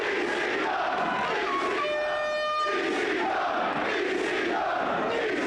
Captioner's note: crowd chanting; air horn blaring; crowd chanting